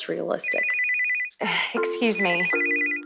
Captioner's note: phone ringing